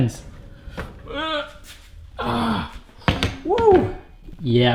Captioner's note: groans